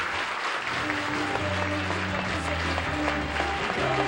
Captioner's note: applause; theme music